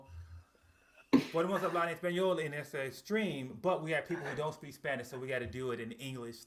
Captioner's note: speaking spanish